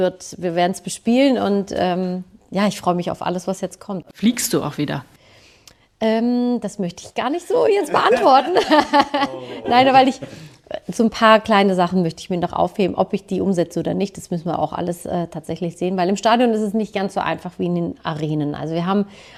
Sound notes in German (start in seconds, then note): 7.7 gelächter; 10.1 schnauben